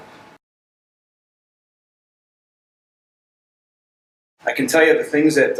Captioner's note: silence